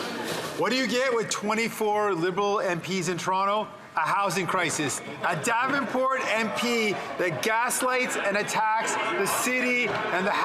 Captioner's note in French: voix de l'interprète